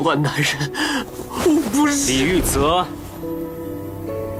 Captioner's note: breathing heavily